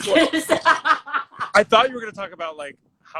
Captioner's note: laughs